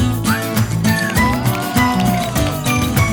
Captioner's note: everyone clapping